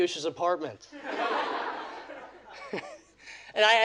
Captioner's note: audience laughing